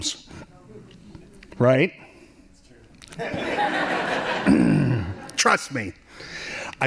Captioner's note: laughing